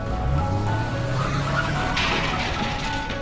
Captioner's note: tires screeching; car crashing